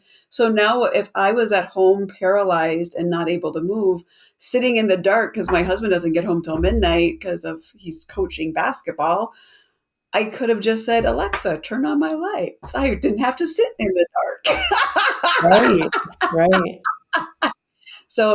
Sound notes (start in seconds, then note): 14.4 laughs